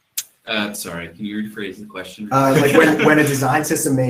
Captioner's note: laughs